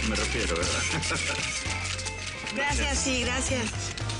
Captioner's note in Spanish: Ríe